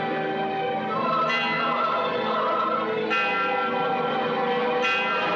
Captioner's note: beIl Tolling